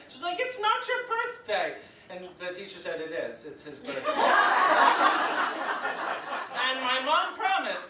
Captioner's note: audience laughs